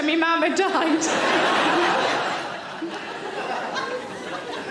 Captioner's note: audience laughing